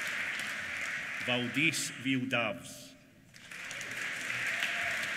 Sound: applause

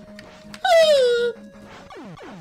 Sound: deflating balloon

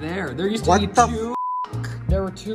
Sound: beep

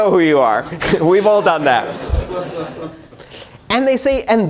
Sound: laughter

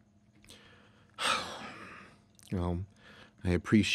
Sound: heavy sigh

